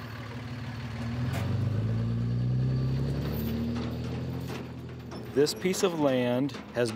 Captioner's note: truck driving past